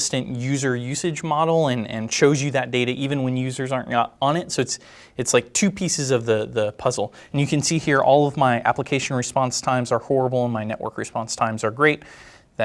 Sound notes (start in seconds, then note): none